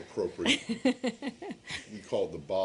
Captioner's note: laughter